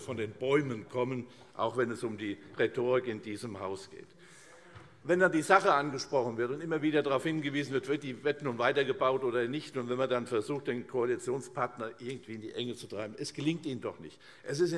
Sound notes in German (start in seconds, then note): none